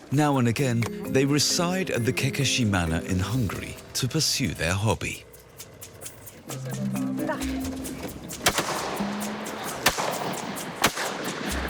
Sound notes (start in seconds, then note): 6.3 chattering; 8.4 gun firing